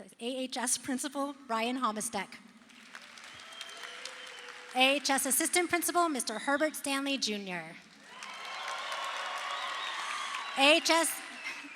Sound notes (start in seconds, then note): 8.0 crowd cheers